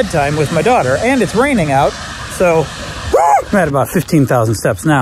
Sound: shrieks

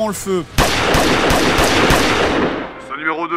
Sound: gunshots

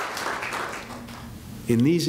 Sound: applause

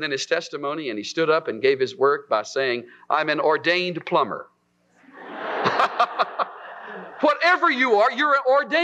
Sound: laughter

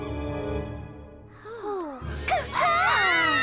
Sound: both sigh in relief; all screaming

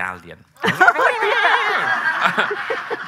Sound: audience laughing; laughing

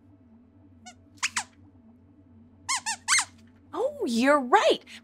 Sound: squeaks squeaks

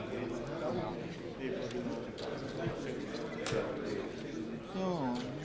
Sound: indistinct conversation

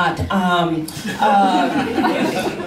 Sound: laughter

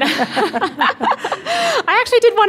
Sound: laughing

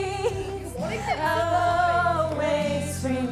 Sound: laughing

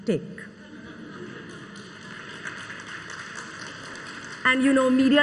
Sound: crowd applauds

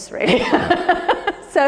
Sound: Ruth laughs

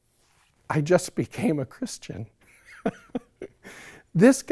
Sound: laughs

